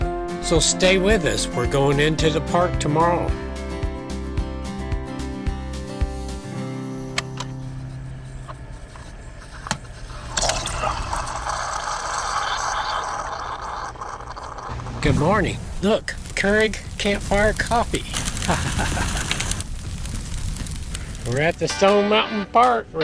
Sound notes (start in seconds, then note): 7.6 coffee Brewing